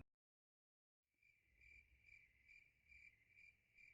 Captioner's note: crickets